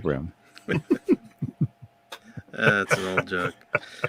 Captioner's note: laughter